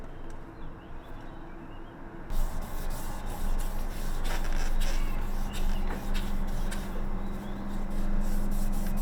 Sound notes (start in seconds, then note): 2.3 sandpaper scraping